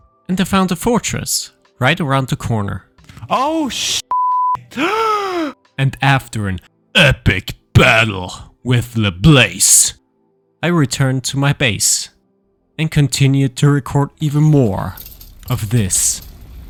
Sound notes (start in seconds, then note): 3.5 beep; 4.7 gasping